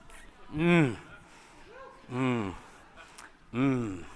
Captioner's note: grunting